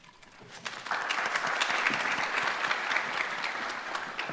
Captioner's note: audience applauding